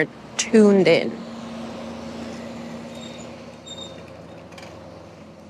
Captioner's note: machine beeping